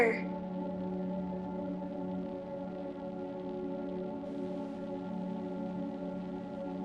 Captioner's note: soft dramatic music; white noise